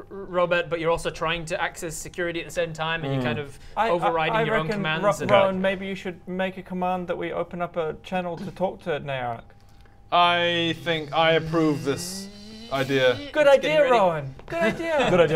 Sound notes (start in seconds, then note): 10.7 zzzzzzzzzzz